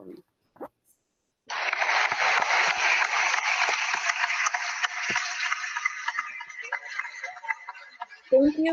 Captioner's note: applause